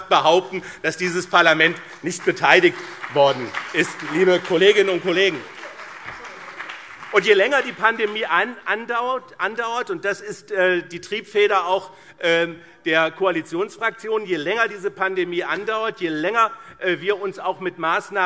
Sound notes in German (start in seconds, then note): 3.9 Beifall BÜNDNIS 90/DIE GRÜNEN und CDU